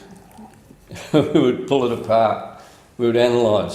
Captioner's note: laughs